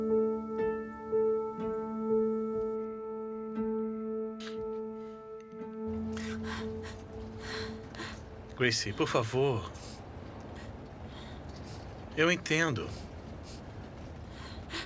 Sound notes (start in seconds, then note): 2.8 crickets chirping